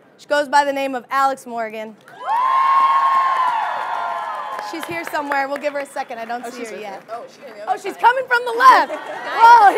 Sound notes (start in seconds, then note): 2.1 audience cheering